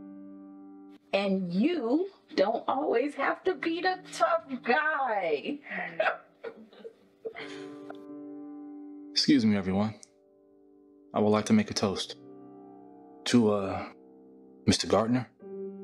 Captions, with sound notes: And you... don't always have to be the tough guy. [Kim laughs] Excuse me everyone. I would like to make a toast. To ah... Mr. Gardner...